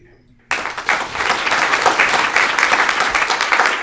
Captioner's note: audience applauds